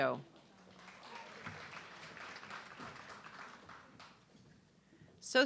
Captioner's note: audience clapping